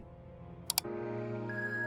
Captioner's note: click